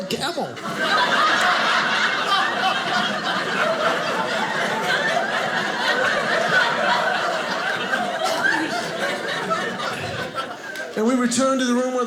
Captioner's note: audience laughing